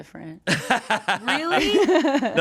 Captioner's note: laughs